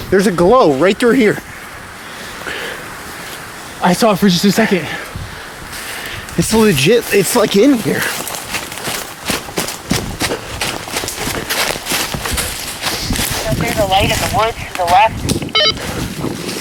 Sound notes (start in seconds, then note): 8.0 footsteps stomping; 8.7 leaves crunching